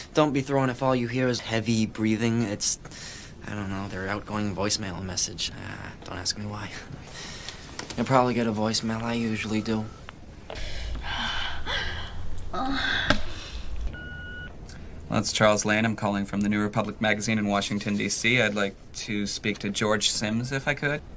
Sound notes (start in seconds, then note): 10.4 heavy breathing